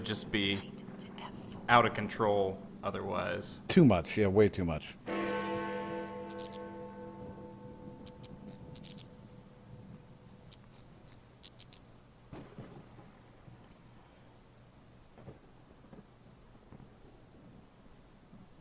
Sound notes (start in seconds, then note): 5.1 bell clock chimes; 7.3 electric light buzzes; 12.5 thunder roars